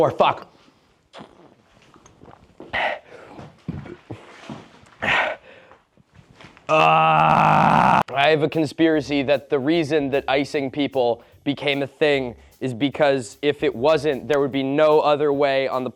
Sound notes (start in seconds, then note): 2.7 burping and gasping